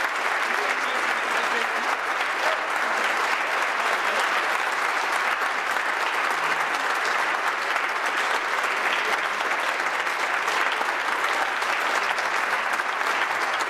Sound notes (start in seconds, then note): 0.0 applause; 0.0 cheering